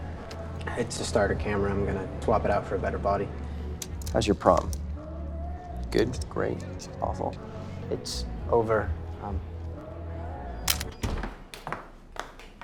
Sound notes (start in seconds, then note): 10.6 camera snaps